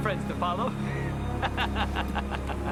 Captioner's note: laughing